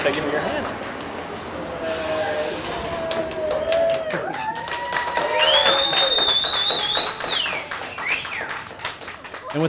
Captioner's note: cheers